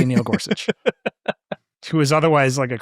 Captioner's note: laughing